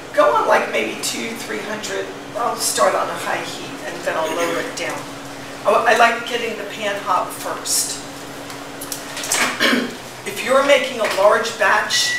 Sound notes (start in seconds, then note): 9.6 clears throat